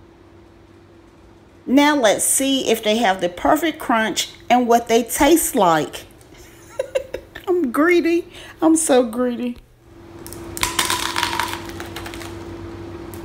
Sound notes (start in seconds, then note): 6.4 laughs